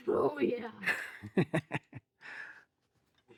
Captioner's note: laughing